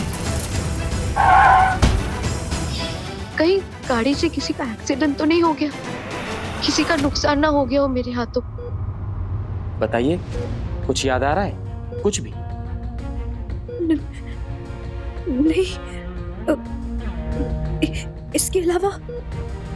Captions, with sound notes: [tyres screeching] 'Did anyone meet with an accident with our car?' 'I hope nobody suffered a loss because of me.' Tell me... Can you recollect anything? No... I can't recollect